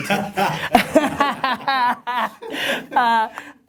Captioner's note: laughter